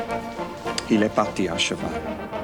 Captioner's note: John speaks French